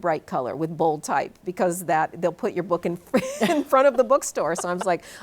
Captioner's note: laughs